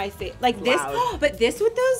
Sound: gasps

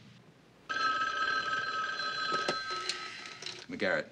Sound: phone ringing

